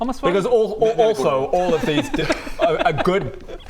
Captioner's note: hypocritical laugh